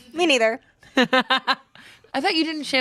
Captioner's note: laughs